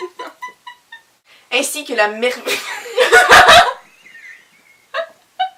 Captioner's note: laughs